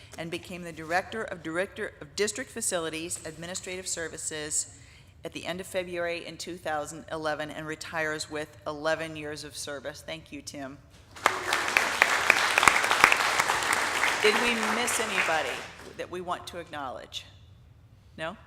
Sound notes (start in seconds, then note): 11.1 audience applauding